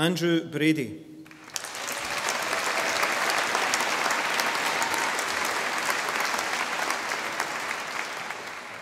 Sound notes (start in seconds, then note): 1.2 audience applauding